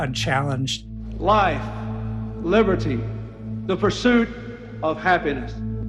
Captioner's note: soundbite of archived recording